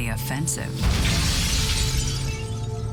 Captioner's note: glass shatters